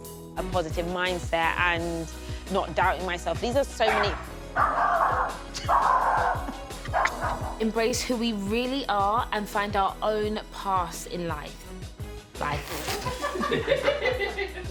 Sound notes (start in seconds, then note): 4.5 dog barking